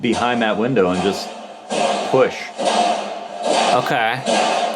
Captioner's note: locker thudding